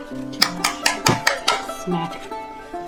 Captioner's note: whack, whack whack whack